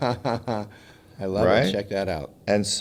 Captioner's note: laughs